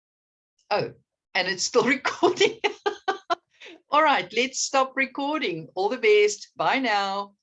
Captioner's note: laughing